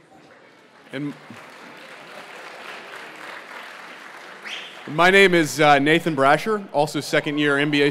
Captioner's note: applause